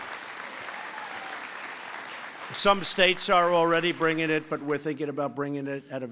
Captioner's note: applause